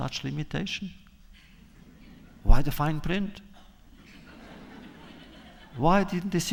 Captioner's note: laughter